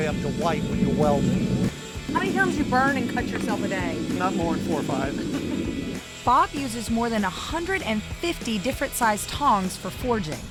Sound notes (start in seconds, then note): 4.1 laughing